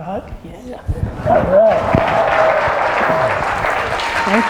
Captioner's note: audience applause